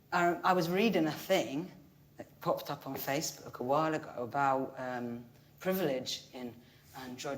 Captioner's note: none